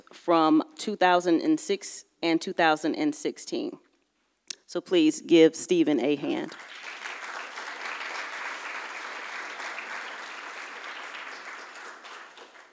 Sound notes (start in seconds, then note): 6.5 audience applauds